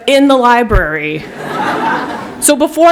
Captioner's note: laughter